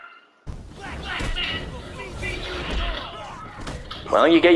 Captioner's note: combat noise in the background quietly